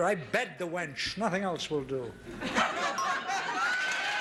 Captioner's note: ding; audience applauding